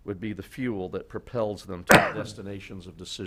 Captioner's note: coughing